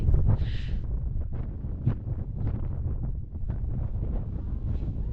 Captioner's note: wind